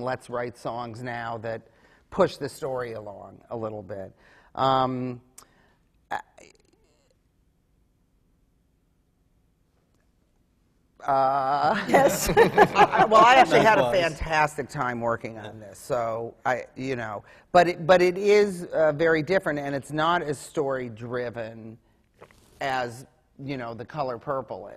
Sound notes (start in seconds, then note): 8.8 long pause; 11.7 laughter